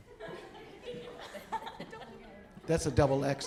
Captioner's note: audience laughing